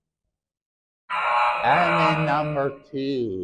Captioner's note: error sound effect